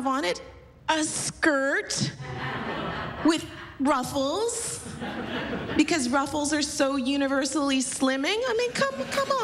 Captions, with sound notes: AND WHAT DOES IT HAVE ON IT? A SKIRT... [LAUGHTER] WITH RUFFLES... BECAUSE RUFFLES ARE SO UNIVERSALLY SLIMMING.